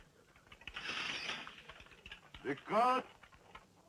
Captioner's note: swords unsheathing